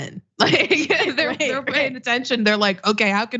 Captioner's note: laugh